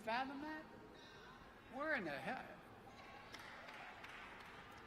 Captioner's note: applause